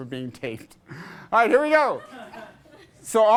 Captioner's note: class laughs